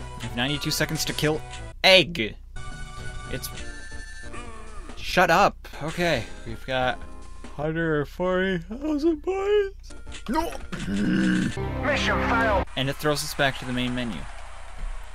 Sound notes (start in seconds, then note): 7.6 mid-yawn; 10.8 angery noises